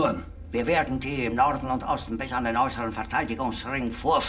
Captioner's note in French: parlant un anglais simple; parlant un anglais clair